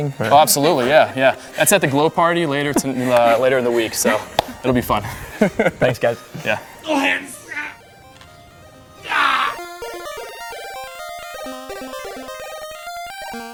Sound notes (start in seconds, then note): 5.2 laughs; 9.6 playful electronic music